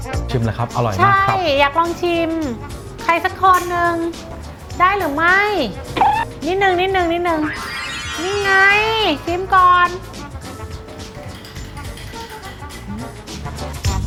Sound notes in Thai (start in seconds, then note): 5.9 เสียงเอฟเฟกต์